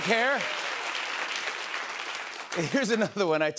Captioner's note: applause